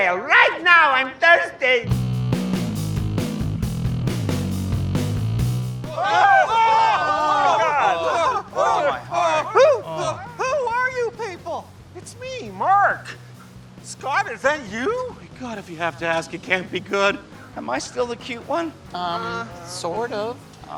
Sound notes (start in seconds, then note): 2.2 upbeat music; 5.8 screaming